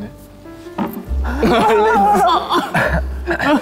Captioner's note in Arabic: يبتلع ريقه